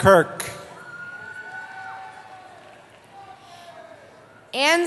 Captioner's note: cheering